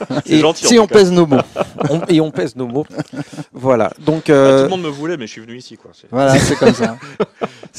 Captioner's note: laughs